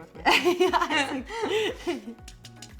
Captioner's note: both laughing; zester tapping